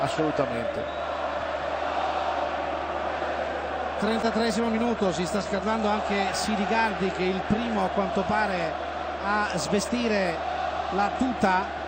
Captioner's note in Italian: Applauso